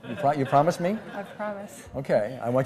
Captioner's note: laughs